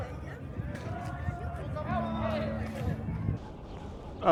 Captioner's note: men cheering